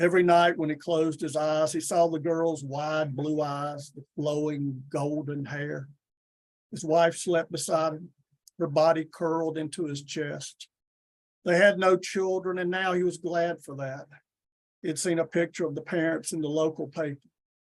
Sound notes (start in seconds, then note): none